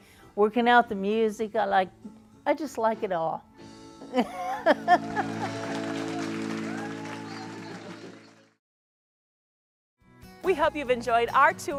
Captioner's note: laughing